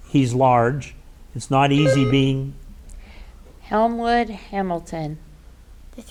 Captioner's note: button buzzing